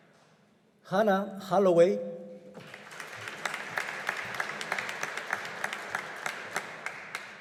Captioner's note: audience applauding